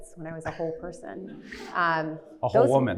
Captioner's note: audience titters